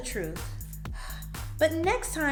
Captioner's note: sighs